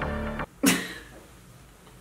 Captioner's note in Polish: śmiech